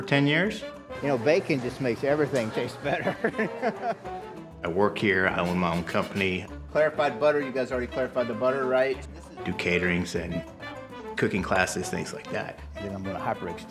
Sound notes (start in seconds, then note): 2.8 laughter